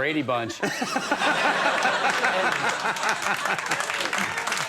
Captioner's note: everyone laughing